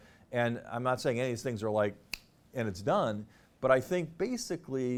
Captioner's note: clicks fingers